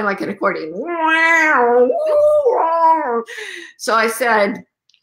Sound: mimics spacey sound effects

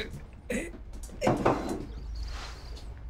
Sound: groaning

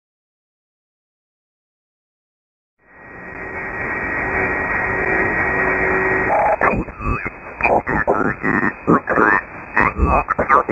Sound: sound of radio communications

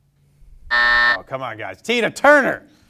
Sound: buzzer sounds

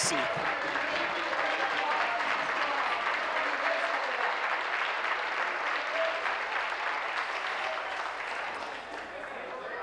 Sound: applause

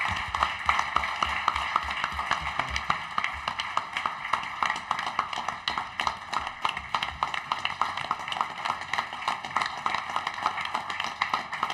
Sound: applause

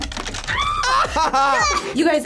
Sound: both laugh; screams; laughs

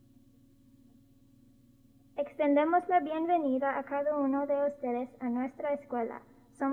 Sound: spoken in Spanish

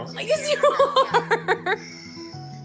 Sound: laughing

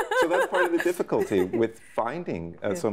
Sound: laughing

